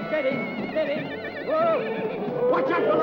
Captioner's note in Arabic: صهيل الحصان